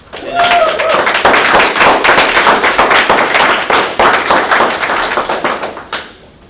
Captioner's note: applause